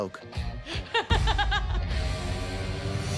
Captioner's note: laughs